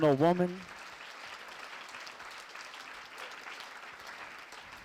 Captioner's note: audience clapping